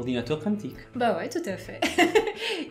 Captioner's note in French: rires